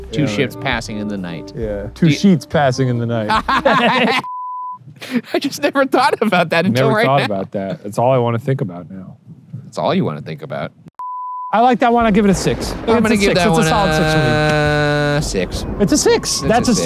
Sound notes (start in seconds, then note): 3.2 laughing; 4.2 screen beeping; 11.0 screen beeping